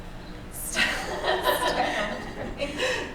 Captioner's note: laughter